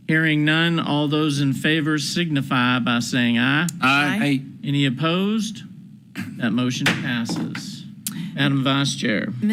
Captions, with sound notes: Hearing none, all those in favor signify by saying aye. - Aye. - Aye. - Any opposed? That motion passes. (gavel bangs) Madam Vice Chair.